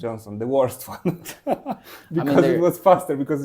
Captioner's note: laughs